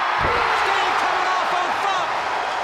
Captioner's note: crowd cheering